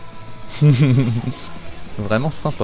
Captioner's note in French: Rire